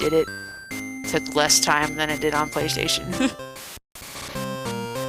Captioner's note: laughs